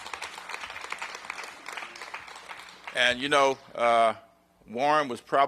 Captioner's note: applause